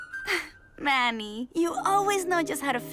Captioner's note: pleased half laugh